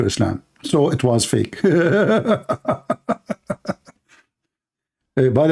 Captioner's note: Ketawa